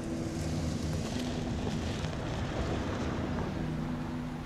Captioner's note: gravel crunching